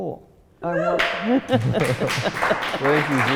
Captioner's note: laughing; audience cheering